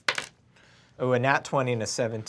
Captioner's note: rolls dice